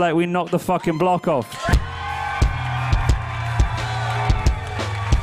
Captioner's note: crowd cheers